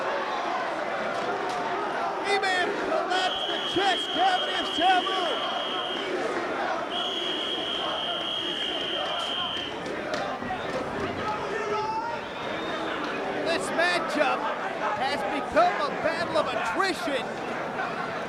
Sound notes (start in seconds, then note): 5.6 spectators chanting "ECW!"; 6.9 whistling